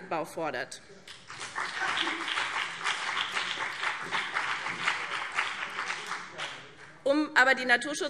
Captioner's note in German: Beifall BÜNDNIS 90/DIE GRÜNEN und vereinzelt CDU